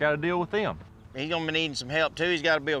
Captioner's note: none